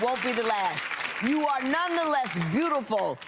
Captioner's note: clapping